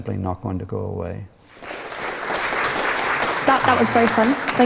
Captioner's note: applause